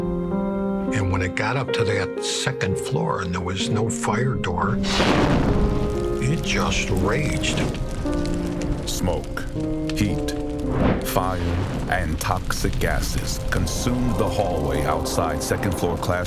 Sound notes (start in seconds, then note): 3.5 fire whooshing